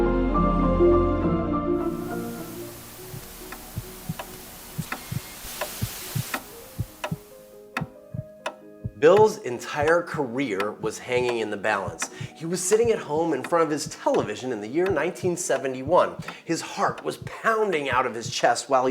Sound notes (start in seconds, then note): 2.0 static